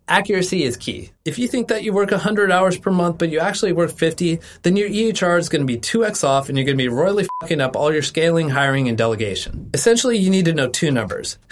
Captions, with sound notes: Accuracy is key. If you think that you work 100 hours per month but you actually work 50, then your EHR is gonna be 2X off and you're gonna be royally (beep) up all your scaling, hiring and delegation. Essentially, you need to know two numbers,